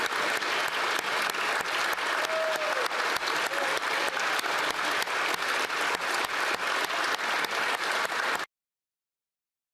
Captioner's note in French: applaudissements